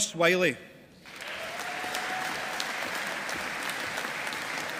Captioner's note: audience applauding